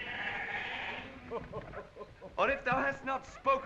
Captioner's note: Corin chuckles